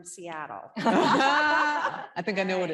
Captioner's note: group laughing